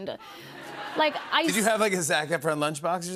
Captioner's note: laughter